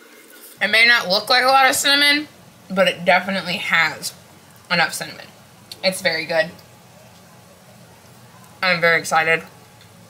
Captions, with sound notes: It may not look like a lot of cinnamon.. ..but it definitely has.. ..enough cinnamon.. It's very good. *More Chewing* I am very excited.